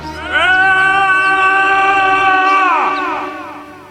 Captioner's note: screaming in agony